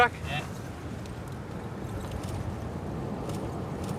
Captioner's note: camera shutter clicking